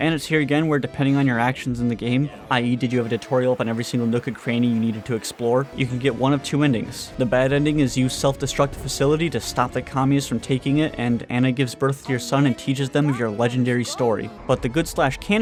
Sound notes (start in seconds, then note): none